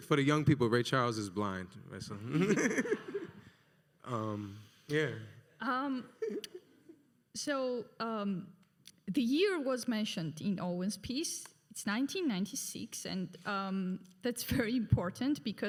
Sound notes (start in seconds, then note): 4.9 laughs